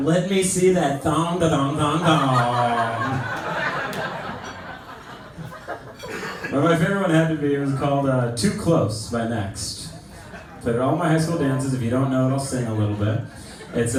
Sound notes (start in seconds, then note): 3.6 laughter